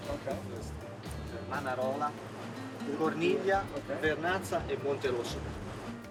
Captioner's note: speaking in foreign language